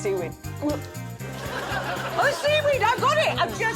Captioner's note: gagging